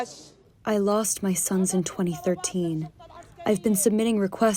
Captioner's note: through translator